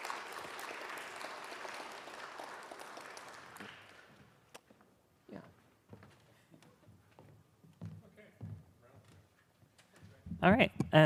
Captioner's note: applause